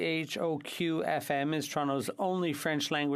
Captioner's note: speaking French